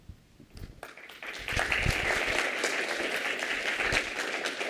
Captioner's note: applause